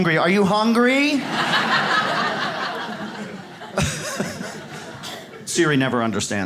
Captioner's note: audience laughs